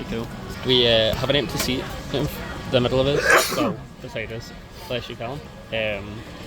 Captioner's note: sneezes